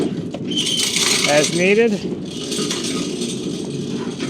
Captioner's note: log saw rattling